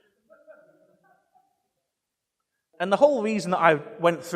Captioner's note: audience laughing